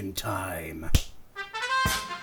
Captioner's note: smacks fist